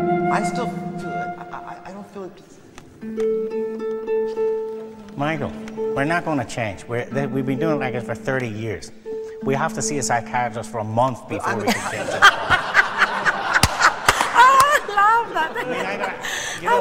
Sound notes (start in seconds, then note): 11.5 laughter